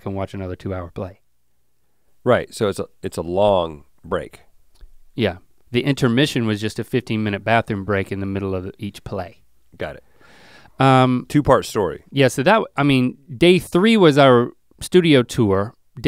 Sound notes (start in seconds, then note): none